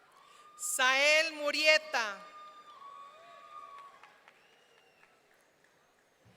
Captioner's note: audience cheering